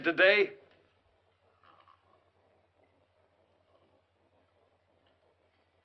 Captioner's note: silence